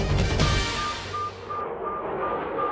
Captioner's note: jet engine roars